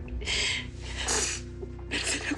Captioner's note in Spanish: Sollozos